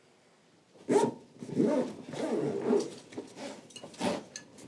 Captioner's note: bag zipper zips